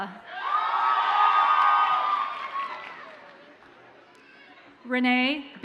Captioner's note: audience cheers and applauds